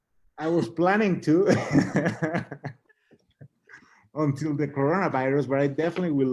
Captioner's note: both laughing